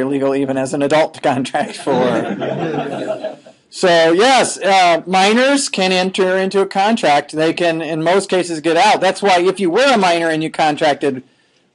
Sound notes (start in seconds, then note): 1.8 all laughing